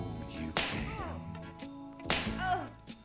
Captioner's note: smack; smack